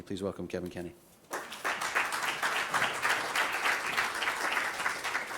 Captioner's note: applause